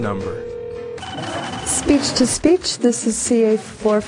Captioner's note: phone rings